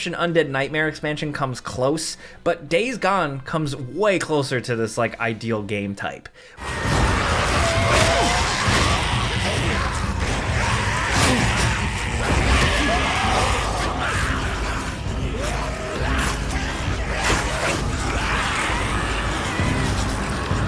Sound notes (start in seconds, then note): 6.9 intense dramatic music; 6.9 zombies growling